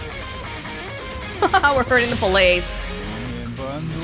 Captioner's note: chuckles